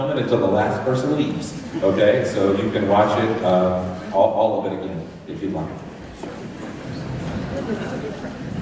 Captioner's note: crowd chatter